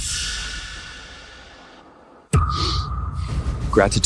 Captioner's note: sniffles